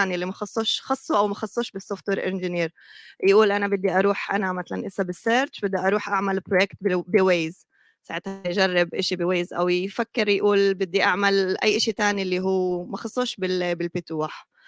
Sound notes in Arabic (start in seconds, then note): 1.6 لغة أجنبية; 5.1 لغة أجنبية; 6.8 لغة أجنبية; 8.9 لغة أجنبية; 13.5 لغة أجنبية